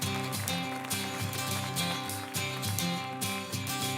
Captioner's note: applause